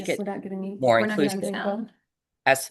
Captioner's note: people chattering indistinctly